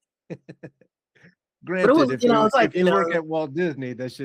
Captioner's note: laughing